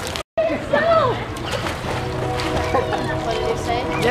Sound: splash

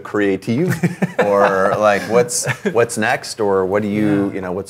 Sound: laughs

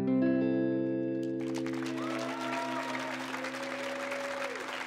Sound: audience cheering

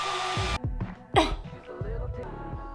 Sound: hairdryer blows; grunts

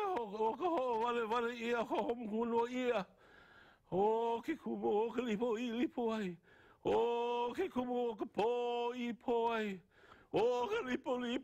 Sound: chanting

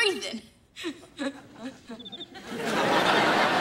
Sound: chuckles

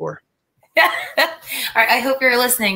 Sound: laughter

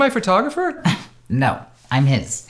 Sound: laughs

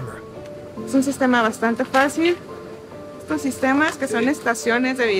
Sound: speaks in Spanish

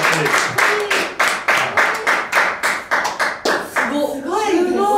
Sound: applause

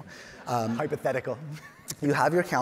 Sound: audience laughing; chuckles

